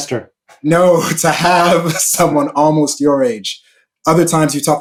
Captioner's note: laughing